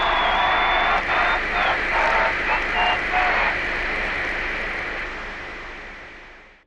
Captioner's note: applause; increasingly distorted radio static